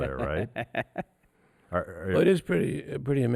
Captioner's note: laughs